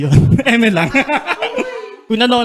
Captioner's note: laughs